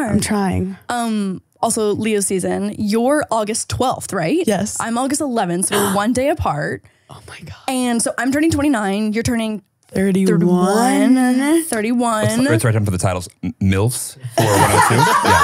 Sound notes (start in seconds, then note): 5.7 gasping